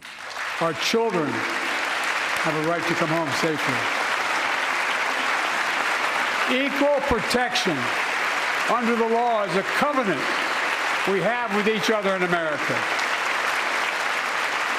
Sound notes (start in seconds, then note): 6.1 applause